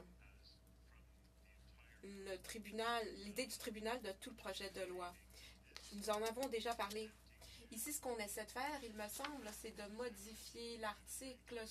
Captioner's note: speaking French